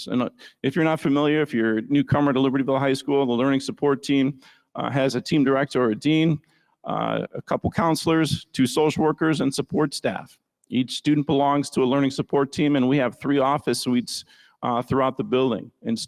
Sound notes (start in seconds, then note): none